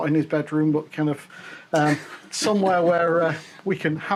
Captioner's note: laughs